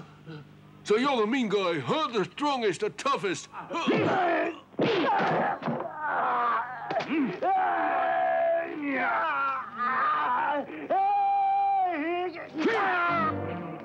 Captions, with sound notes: - So you're the mean guy, huh, the strongest, the toughest. (men grunting) (groaning)